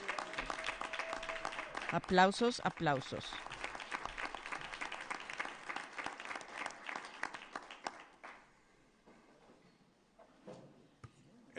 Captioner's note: applause